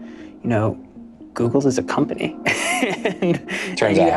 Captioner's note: laughs